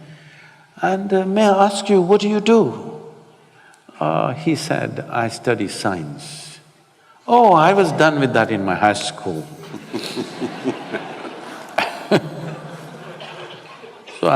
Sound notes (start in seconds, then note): 9.5 laughter